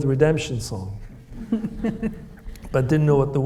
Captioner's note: Kamila laughs